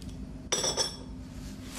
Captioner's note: teacup clinks